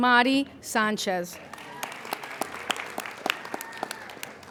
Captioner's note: applauding